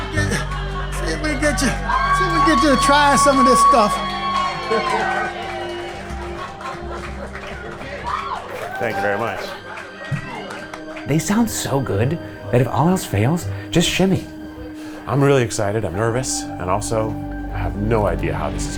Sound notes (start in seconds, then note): 3.0 audience cheering